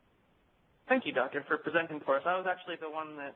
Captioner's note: voiceover